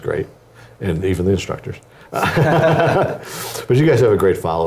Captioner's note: laugh